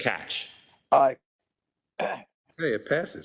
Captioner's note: cough